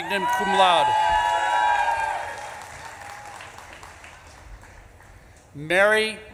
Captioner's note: audience claps and cheers